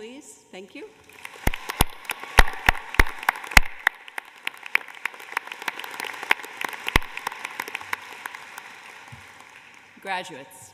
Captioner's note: applause